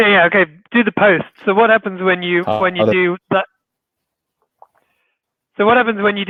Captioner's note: murmurs